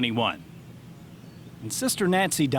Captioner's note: birds chirping